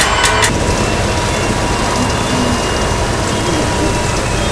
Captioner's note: screaming